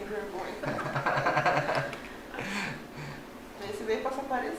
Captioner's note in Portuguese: risos